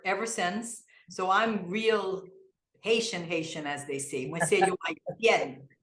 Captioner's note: in Kreyol